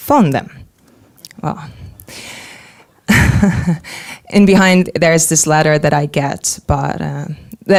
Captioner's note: chuckling